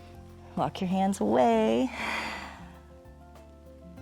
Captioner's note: exhales